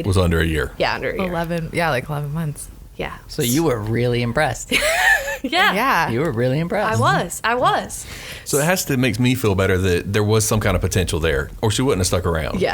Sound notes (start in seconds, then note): 4.8 laughs